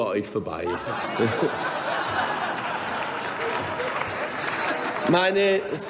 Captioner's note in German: Heiterkeit und Beifall bei Abgeordneten der CDU/CSU